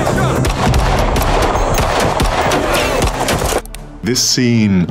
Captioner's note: guns popping